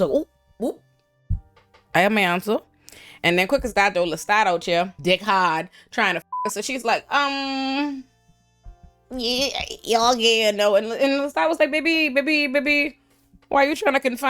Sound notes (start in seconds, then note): 6.2 beep